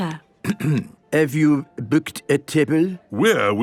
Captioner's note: clears throat